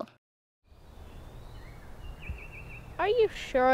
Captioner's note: birds chirping